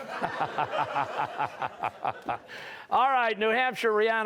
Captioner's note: laughter; laughing